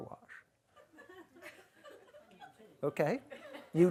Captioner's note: audience chuckles